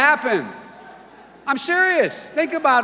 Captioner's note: audience laughter